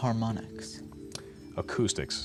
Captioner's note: buzzer